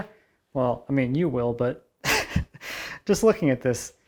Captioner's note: laughing